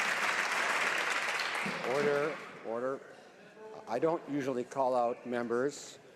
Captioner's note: some Applause